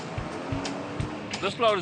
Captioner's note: truck motor